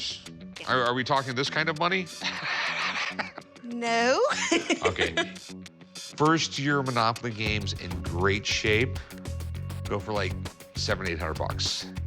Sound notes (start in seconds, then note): 2.1 laughs